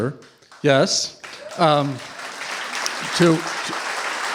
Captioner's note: applause